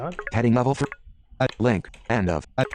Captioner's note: computer voice